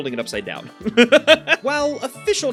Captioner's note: giggles